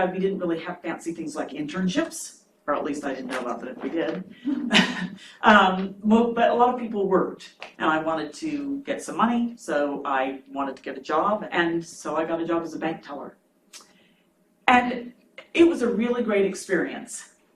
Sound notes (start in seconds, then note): 4.1 chuckles